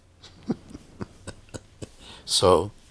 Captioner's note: chuckles